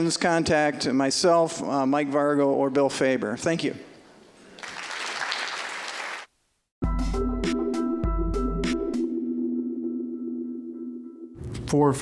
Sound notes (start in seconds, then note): 4.5 applause; 6.8 bright, ambient tonal music